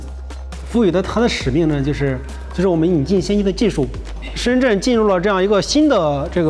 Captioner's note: speaker speaking in foreign language